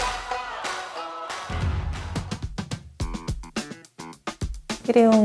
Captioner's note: clap